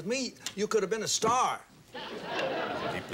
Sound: audience laughing

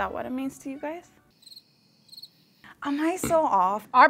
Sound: birds chirping

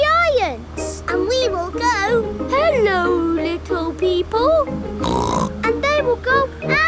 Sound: snorts

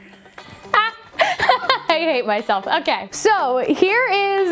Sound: laughs

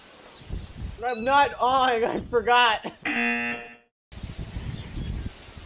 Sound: buzzer rings

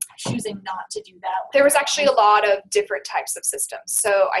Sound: voiceover

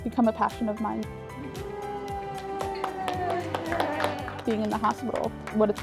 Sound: cheering

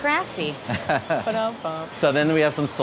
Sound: laughing

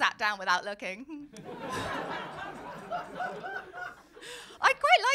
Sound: laughter

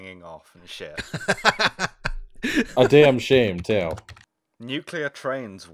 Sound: laughter

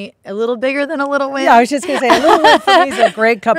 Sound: Kate laughing

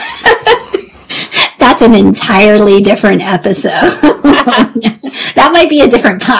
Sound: laughs

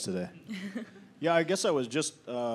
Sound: chuckling

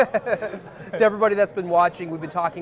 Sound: laughing

